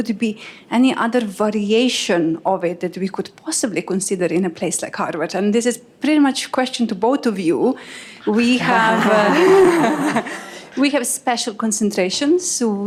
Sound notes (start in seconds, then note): 8.2 laughter